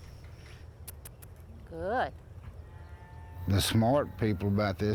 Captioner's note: clicks teeth; squeaky kisses